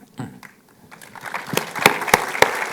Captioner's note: applause